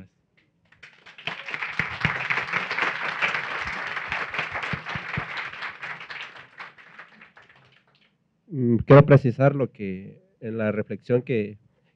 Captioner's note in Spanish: Aplausos